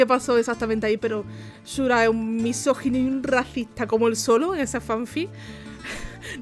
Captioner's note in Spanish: risas